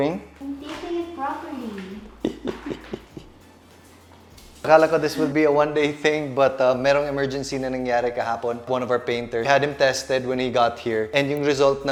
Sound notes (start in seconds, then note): 2.1 chuckles